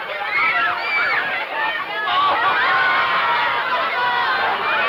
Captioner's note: children shouting